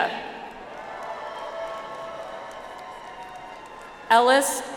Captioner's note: audience applauds